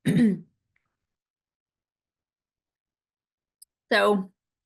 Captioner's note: clears throat